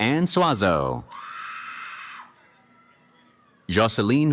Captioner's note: cheering